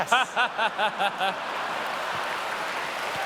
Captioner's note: laughter